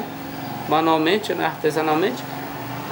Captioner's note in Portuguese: veículo passando na rua